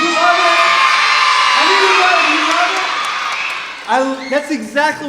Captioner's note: students cheering